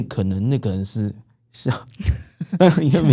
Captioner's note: laughs